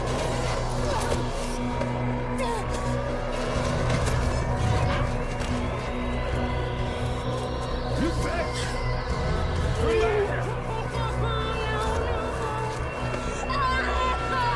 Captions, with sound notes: [GEMITI] Puttana! Torna qui! [SINGHIOZZANDO] No, no, no.